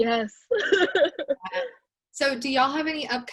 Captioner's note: laughs